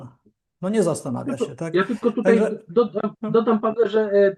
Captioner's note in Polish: śmiech